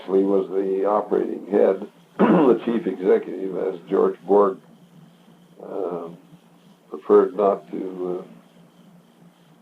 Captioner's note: clears throat